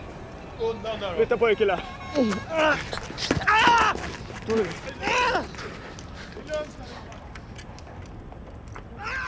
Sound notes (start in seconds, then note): 3.7 robber grunting; 4.2 grunting